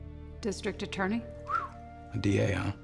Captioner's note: whistles